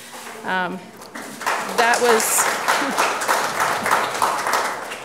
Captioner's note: audience clapping